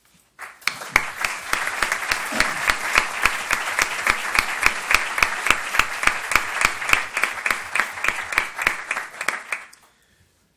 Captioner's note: applauses